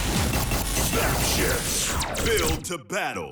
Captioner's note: crackle of electricity